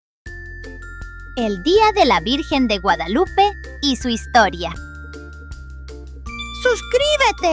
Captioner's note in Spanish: Voz en off